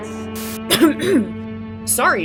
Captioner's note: cough